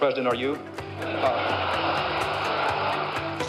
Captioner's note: laughter; applause